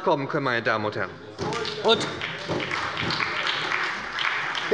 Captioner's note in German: Beifall bei der SPD